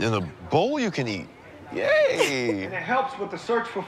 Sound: chuckles

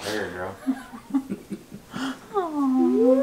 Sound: laughing

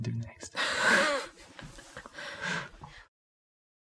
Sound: laughing

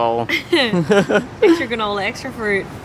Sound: giggles

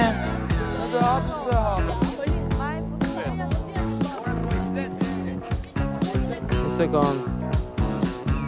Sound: chattering

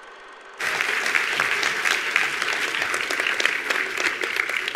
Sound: attendees applauding

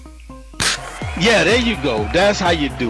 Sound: party popper pops

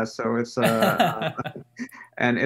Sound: laughing

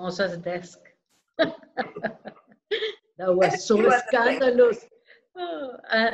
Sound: laughter

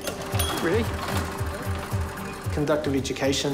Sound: motors purr

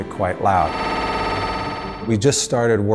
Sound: scanner blips

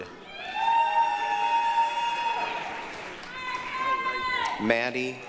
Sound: applause, cheering; yelling

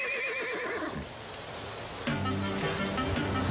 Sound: horse snickering; upbeat music

